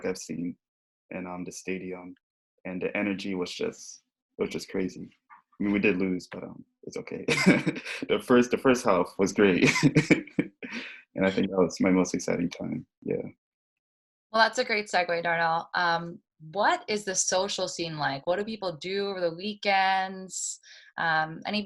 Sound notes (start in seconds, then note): 7.1 laughing